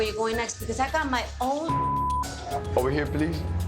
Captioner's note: beep